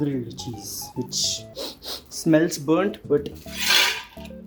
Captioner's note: sniffs